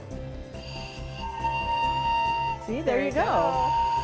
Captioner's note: ghost whistle blowing